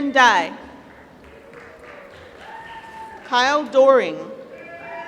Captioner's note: applause